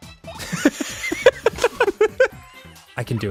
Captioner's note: both laughing